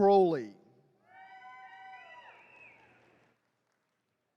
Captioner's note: attendees cheering